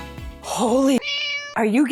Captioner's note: meow